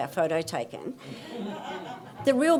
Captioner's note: audience laughs